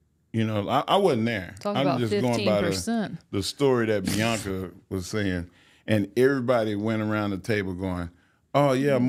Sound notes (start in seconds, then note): 1.8 laughs